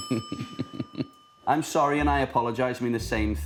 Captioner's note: laughs